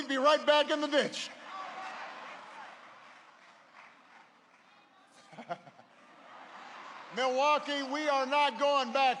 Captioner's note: laughter